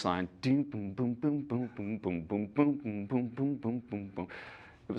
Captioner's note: imitates base line